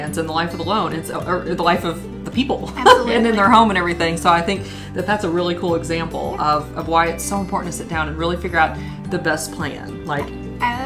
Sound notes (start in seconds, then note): 2.7 laughs